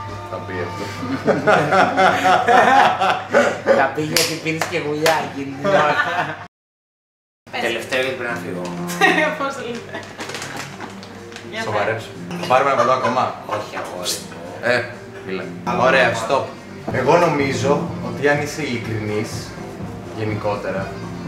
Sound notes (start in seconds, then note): 1.0 laughters; 5.8 laughters